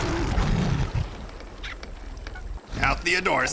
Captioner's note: ਸ਼ੇਰ ਗਰਜਦਾ